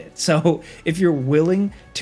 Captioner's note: narrator chuckles